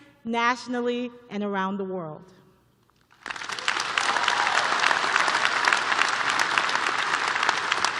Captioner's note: applause